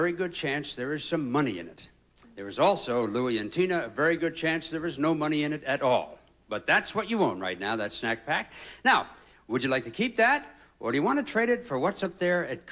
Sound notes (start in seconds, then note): none